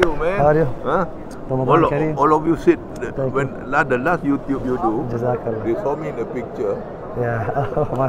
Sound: Arabic

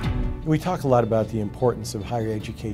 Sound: voiceover

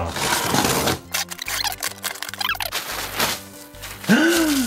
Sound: tape tearing; tape skipping forward; gasp

